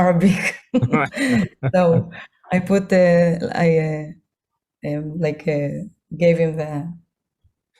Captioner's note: hebrew